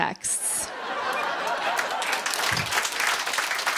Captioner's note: laughter; applause